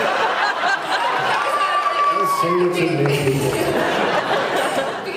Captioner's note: laughs; laughs